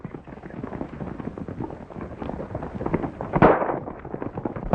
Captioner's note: horses galloping